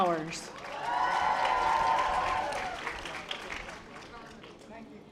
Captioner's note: audience applause